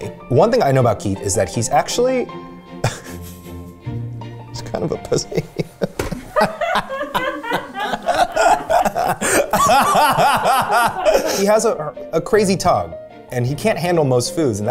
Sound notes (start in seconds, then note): 2.8 chuckling; 4.8 laughing